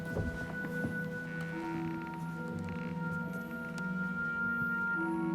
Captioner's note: floor creaks